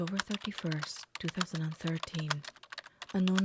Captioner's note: keyboard Typing Sounds